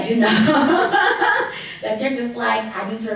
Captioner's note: laughs